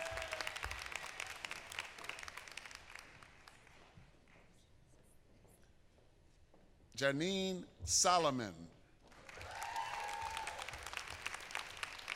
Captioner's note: applause